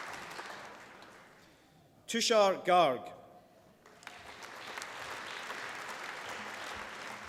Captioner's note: applause